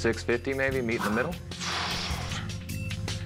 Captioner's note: huffs